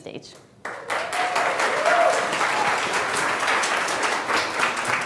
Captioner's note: audience applauding